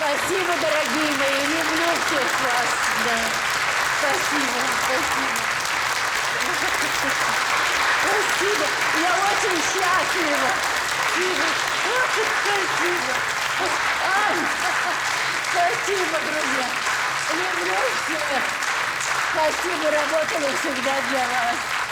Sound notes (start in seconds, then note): 13.6 laughs